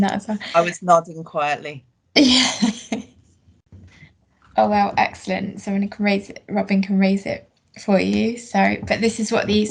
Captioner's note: laughs